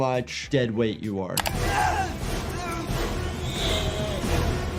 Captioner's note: person screaming